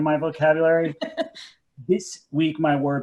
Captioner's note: laughs